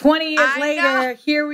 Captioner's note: laughs